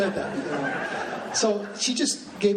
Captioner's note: laughing